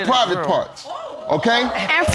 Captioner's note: audience exclaiming